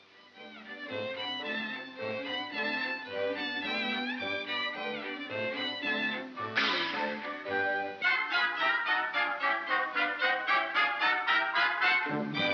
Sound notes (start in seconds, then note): 6.5 Barnaby hisses; 8.0 whimsical music